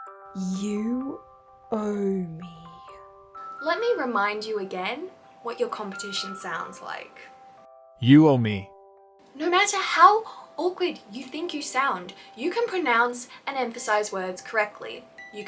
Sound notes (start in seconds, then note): 7.6 male Screen-reader Voice